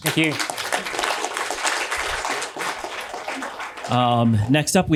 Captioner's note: applause